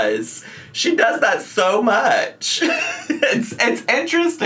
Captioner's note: laughs